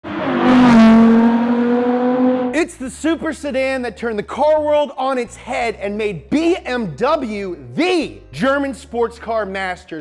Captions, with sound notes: (car engine revs) - It's the super sedan that turned the car world on its head and made BMW the German sports car masters.